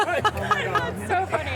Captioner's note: laughter